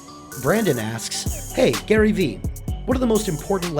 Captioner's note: voiceover